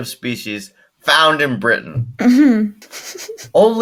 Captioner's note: laughing